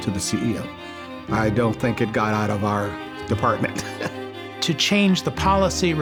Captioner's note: chuckles